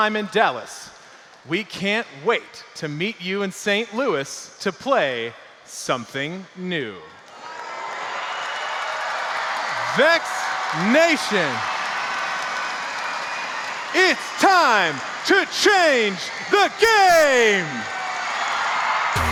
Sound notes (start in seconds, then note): 7.6 crowd cheering